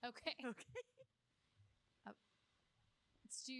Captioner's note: laughter